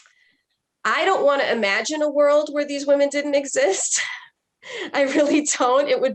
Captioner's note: chuckles